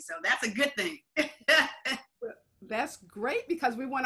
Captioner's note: laughs